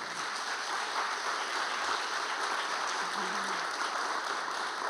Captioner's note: audience applauding